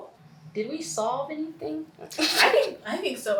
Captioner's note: laughs